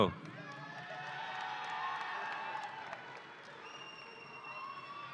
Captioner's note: audience cheering